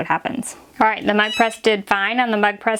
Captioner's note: beeps